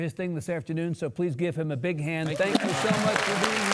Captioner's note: audience applauding